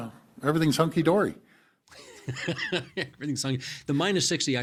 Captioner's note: chuckling